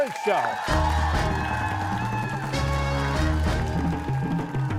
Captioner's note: cheers and applause